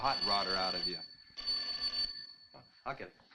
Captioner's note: telephone rings